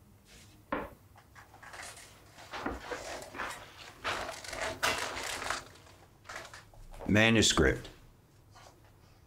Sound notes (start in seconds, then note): 2.4 footsteps thudding